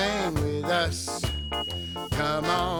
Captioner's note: bell rings